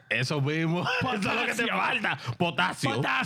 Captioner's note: speaking In Foreign Language